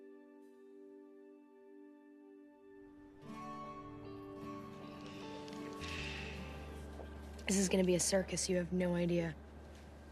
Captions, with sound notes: [Sighs] This is going to be a circus. You have no idea.